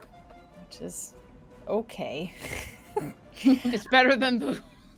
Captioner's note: laughs